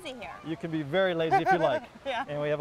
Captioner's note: laughs